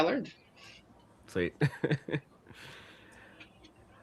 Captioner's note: laughs